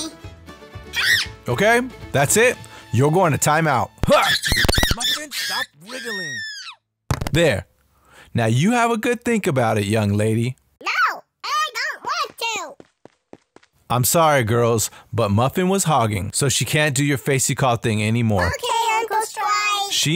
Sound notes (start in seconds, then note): 3.9 Muffin screams